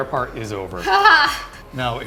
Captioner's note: laughs